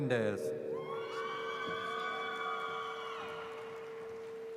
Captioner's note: audience cheers